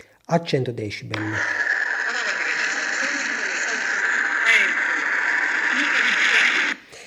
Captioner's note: laughs